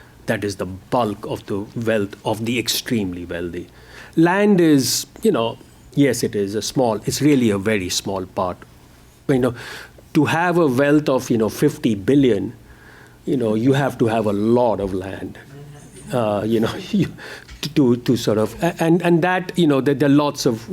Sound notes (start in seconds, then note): 15.3 mumbling; 16.1 laughter